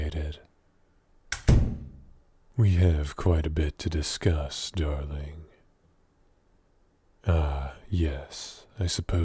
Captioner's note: door closes